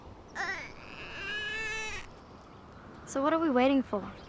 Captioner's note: Brady crying